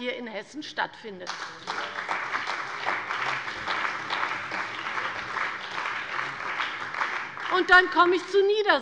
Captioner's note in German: Beifall bei der CDU und dem BÜNDNIS 90/DIE GRÜNEN